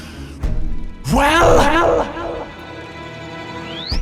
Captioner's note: echoing dramatically